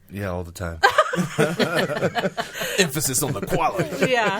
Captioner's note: laughing